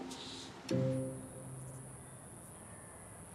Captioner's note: insects chirping